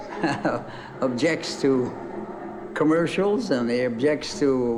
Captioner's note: laughs